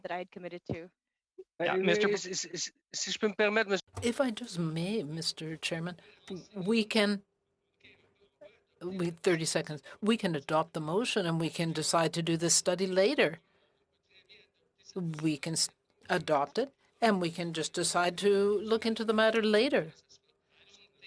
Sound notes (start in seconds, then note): 7.5 speaking French